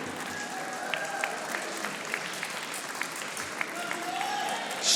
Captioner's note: audience applauding